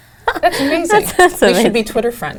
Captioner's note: laugh